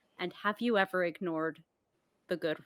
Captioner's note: none